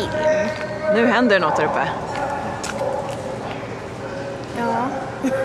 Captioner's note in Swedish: En man pratar i megafon